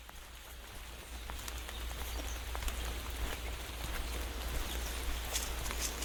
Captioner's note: rain